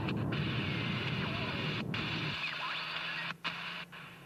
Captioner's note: radio crackling